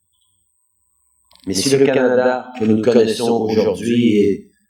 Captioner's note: french; french